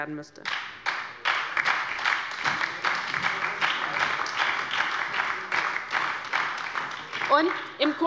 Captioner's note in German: Beifall bei der LINKEN und der SPD